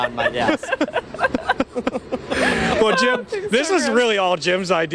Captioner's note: laughter